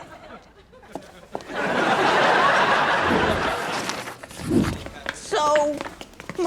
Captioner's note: audience laughs